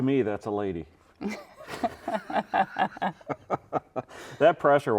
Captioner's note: chuckling